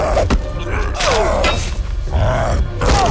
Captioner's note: cyclops growls; soldier 2 grunts; soldier 2 groans